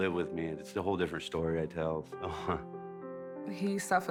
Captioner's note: chuckling